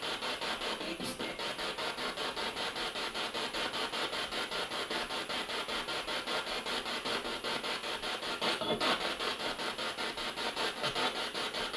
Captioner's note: sound of the Spirit Box in the background